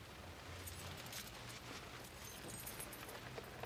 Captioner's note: keys jingling